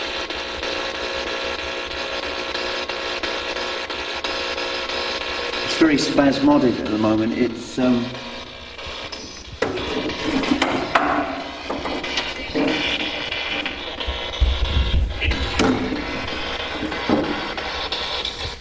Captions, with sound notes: It's very spasmodic at the moment. (clattering) (static buzzing)